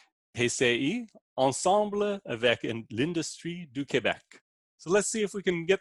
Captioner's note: speaking in foreign language